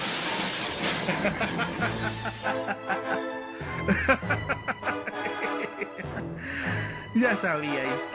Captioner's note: evil maniacal laughter